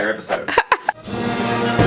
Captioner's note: laughs